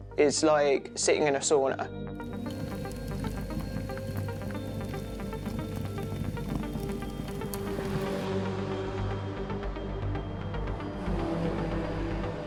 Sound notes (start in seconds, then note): 4.1 light dramatic music; 4.1 water whooshing; 7.4 car engine roaring